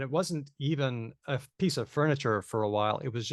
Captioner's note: none